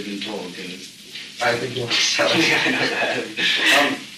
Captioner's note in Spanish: risas